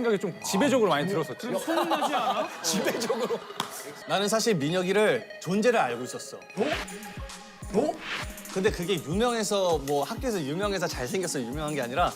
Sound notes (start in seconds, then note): 6.5 dramatic sound effects